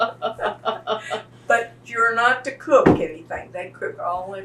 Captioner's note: laughs